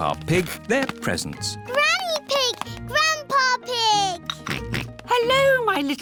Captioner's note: oinks